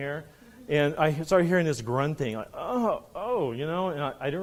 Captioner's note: groaning